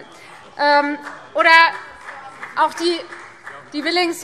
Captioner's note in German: Beifall Freie Demokraten